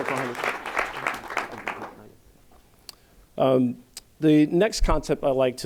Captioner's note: applause